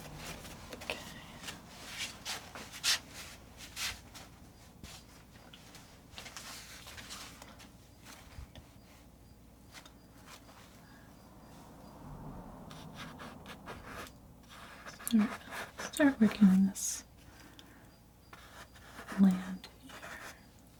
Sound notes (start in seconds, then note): 2.3 scratching sounds